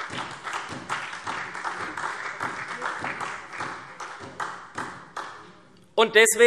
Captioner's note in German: Beifall SPD und BÜNDNIS 90/DIE GRÜNEN